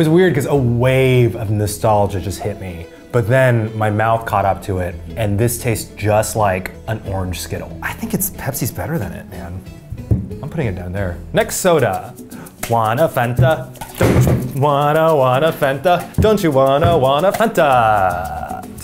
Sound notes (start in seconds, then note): 13.3 soda bangs